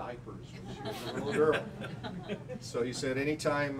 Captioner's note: laughing